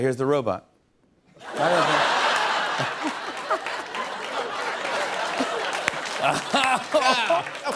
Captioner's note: laughter and applause